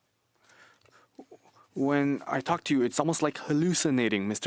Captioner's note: speaking French